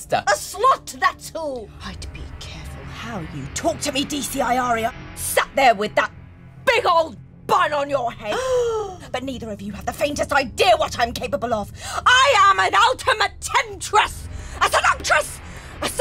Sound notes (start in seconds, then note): 8.3 police woman gasps